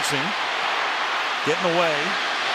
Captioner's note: cheering